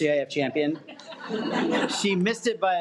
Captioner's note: audience laughs